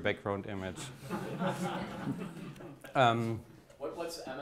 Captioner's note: audience laughs